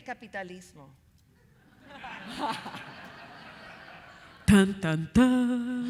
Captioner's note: audience laughing